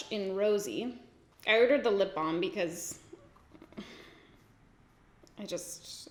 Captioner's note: sighs